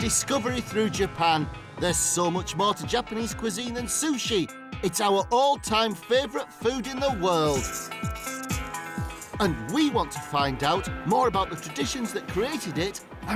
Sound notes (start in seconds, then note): 8.8 slurping